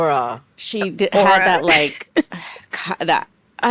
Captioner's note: laughs